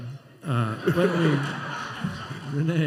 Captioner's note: laughter